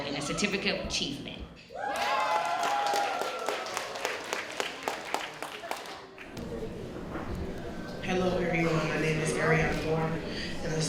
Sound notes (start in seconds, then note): 1.9 applause